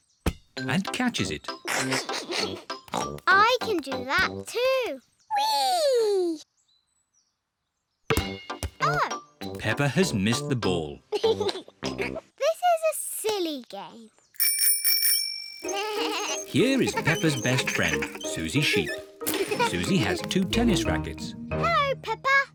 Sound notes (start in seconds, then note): 1.6 laughs; 1.7 snorts; 8.1 thud; 11.1 laughs; 14.4 bell rings; 15.7 bleating